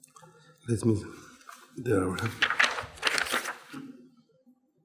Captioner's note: papers rustling